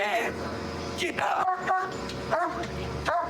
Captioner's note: barking